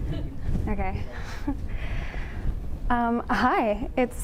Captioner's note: chuckles; audience laughing